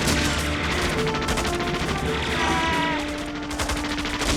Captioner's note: machine gun fire